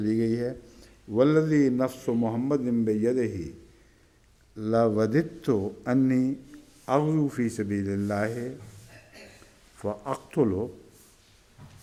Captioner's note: Arabic